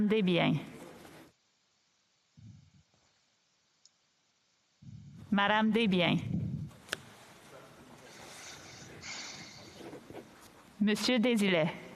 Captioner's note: speaking French